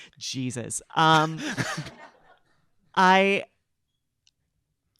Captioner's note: audience laughing